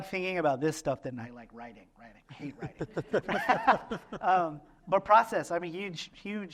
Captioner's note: laughter